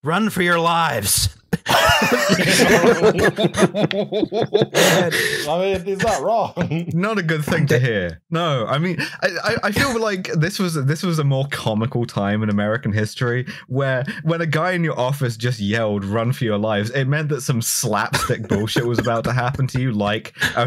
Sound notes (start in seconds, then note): 1.5 laughter